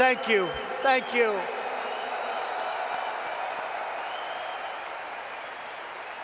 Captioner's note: applause